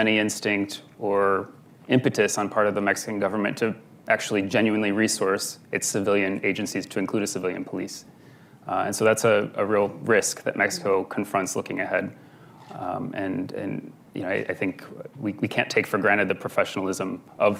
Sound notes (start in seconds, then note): none